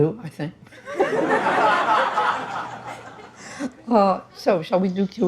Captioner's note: participantes rindo